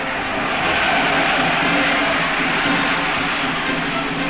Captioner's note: crowd cheers